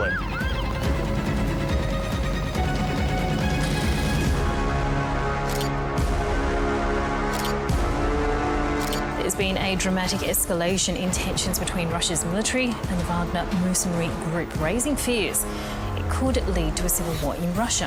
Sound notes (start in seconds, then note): 0.0 sirens wail; 5.2 camera clicks